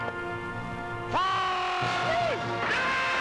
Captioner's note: Gunshot